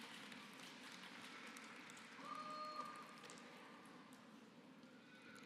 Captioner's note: applause